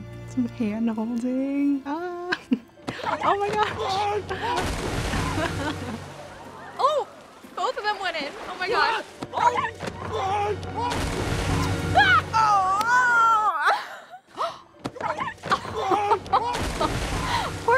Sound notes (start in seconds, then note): 5.2 laughs; 11.8 laughs; 14.3 gasps; 14.9 laughs